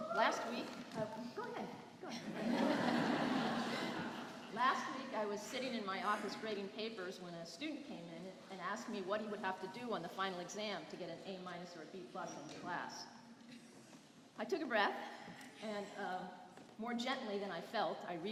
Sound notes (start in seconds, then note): 2.1 laughter